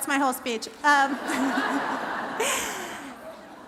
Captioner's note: laughter